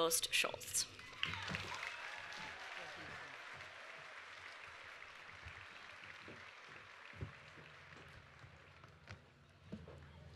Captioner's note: applause